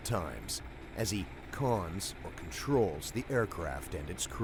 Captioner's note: voiceover